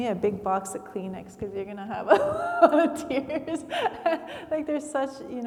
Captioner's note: laughs